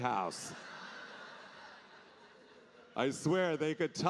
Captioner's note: audience laughing